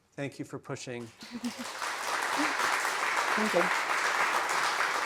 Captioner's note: attendees applauding